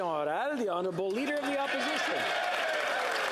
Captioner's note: applause